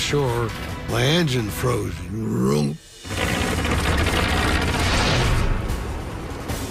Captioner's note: engine sputters